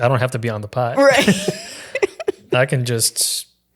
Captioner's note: laughing